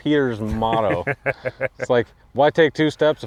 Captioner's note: laughing